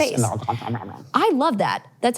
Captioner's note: imitates munching